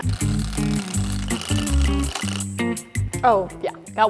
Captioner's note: whirring